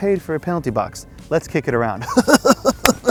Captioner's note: laughing goofily